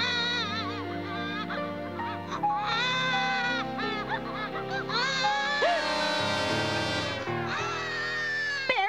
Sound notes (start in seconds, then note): 5.7 gasps